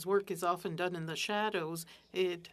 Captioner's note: speaking French